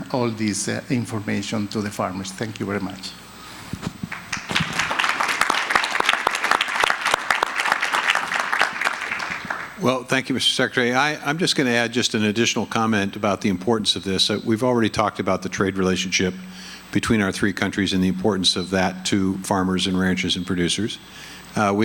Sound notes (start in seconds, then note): 4.1 audience applauding